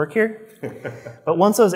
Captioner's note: laughs